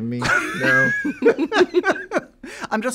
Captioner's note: laughter